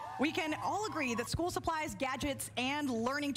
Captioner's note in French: cheers & applause